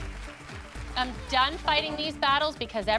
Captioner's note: applause